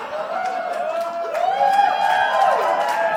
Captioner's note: applause